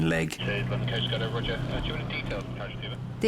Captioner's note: radio